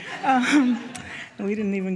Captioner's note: audience chuckles